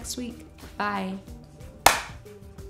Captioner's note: clap